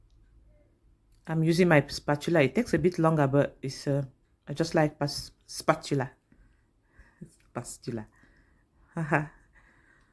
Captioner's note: laugh